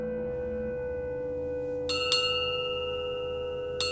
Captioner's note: bell rings